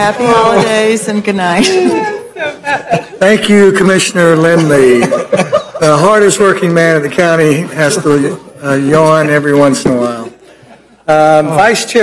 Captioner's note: laughing